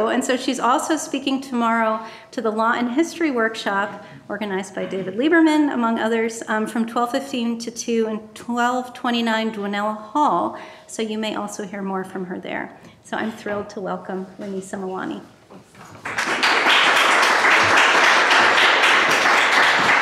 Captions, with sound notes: and so she's also speaking tomorrow to the Law and History Workshop organized by David Lieberman, among others, from 12:15 to two in 1229 Donella Hall, so you may also hear more from her there, so I'm thrilled to welcome Renisa Mawani. (audience applauding)